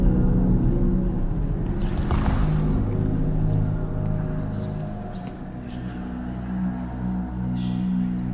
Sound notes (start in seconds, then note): 1.7 footsteps